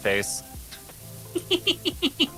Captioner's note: laughing